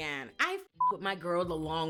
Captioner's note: beep